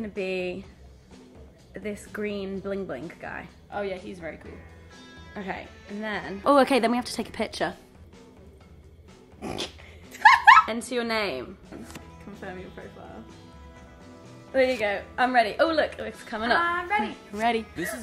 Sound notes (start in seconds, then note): 10.1 laughing